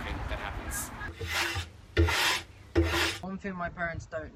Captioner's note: sweeping